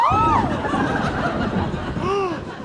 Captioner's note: thunder; gasping; gasps